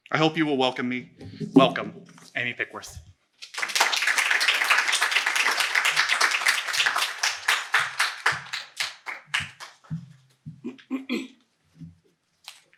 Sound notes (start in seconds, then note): 3.4 applause